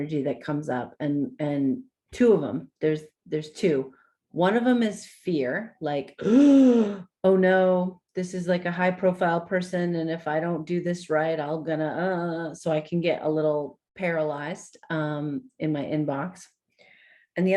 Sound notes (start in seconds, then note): 6.2 gasps